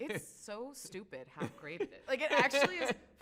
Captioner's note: laughs